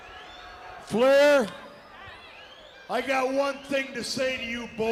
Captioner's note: crowd cheering